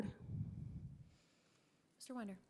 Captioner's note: breathes into microphone